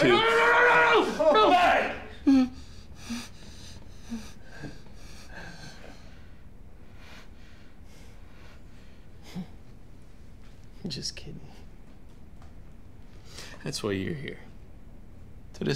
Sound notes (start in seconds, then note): 0.1 muffled shouting; 2.0 heavy breathing